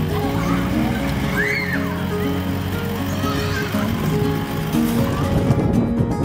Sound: uptempo light music; kids laughing and yelling

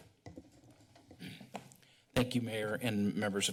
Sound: clears throat

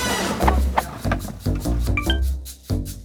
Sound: rummaging

